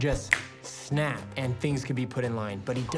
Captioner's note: fingers snap